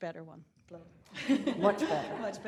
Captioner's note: laughs